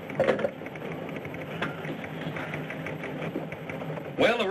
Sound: typewriters clacking

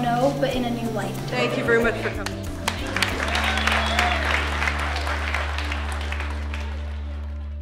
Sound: applause and cheering

